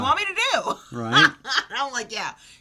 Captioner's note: laughs